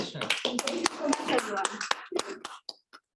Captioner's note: clapping